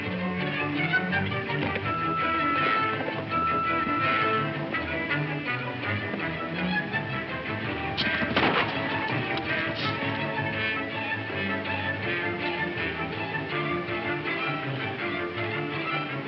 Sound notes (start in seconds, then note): 8.3 gun firing; 11.8 upbeat dramatic music